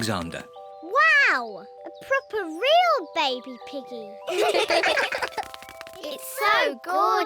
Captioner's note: all laugh